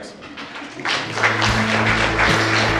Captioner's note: audience applause